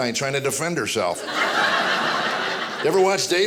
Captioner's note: audience laughing